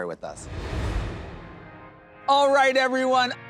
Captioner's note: air whooshes